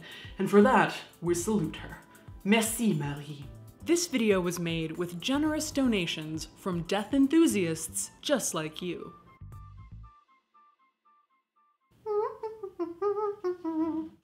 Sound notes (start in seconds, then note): 12.0 humming